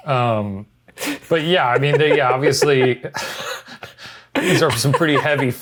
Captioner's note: laughs